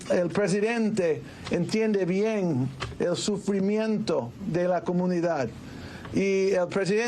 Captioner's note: speaking in spanish